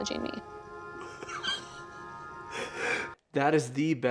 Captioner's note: laughing